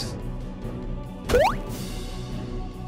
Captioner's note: boing